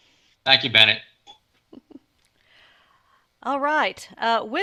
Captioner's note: chuckles